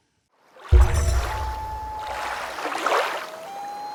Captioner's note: water rushing, loon calling